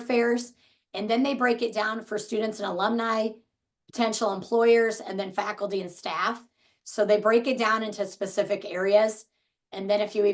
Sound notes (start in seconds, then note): none